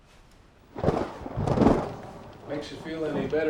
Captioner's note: thunder rumbling